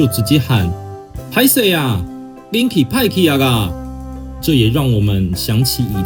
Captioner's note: in Taiwanese